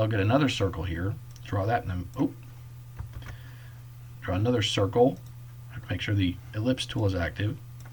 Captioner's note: click; click